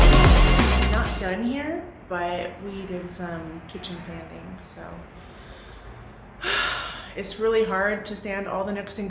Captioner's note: sigh